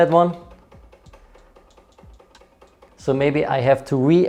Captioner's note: clicking